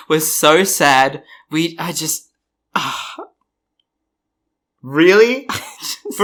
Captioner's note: sighs; laughs